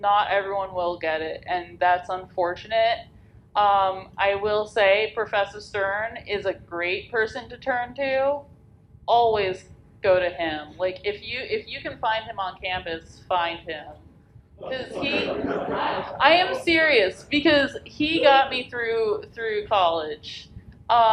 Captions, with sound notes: Not everyone will get it, and that's unfortunate. I will say Professor Stern is a great person to turn to. Always go to him. If you can find him on campus, find him. (audience laughs) 'Cause he, I am serious because he got me through college.